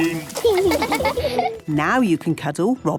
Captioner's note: laughing